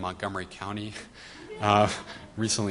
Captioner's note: audience laughs